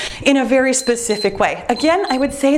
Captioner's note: timer beeps